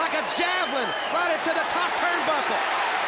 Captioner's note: crowd cheering